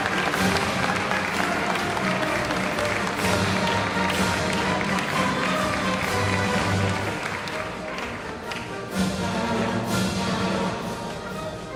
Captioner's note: applause